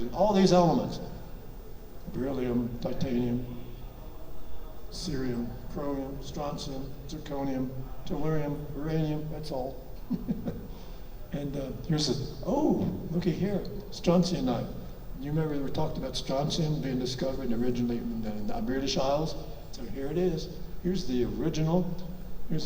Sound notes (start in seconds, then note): 10.0 chuckles